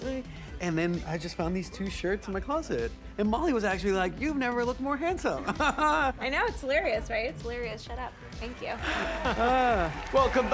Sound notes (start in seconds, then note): 5.4 chuckles; 8.8 both chuckles